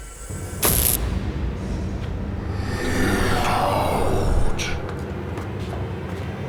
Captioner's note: electricity cracks